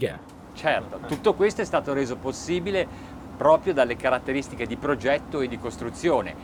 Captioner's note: man speaking in foreign language